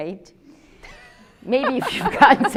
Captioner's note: both laughing